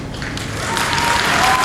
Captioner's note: applause